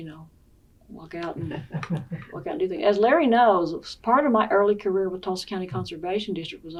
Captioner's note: laughs